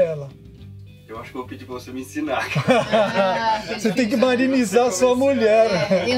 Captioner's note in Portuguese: risos